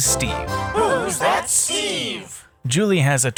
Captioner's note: crowd